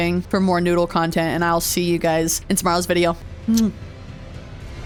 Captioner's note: kiss